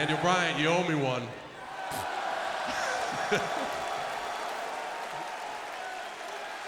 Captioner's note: applause; laugh